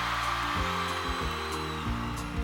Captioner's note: crowd cheering